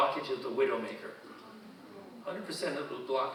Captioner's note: audience murmuring